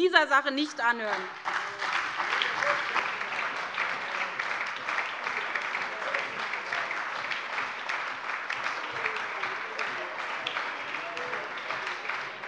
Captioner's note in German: Beifall bei der SPD, der LINKEN und der FDP